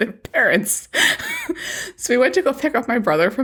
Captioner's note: laughs